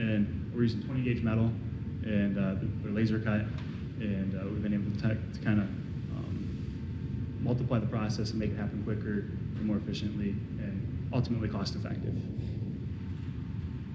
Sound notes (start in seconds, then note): none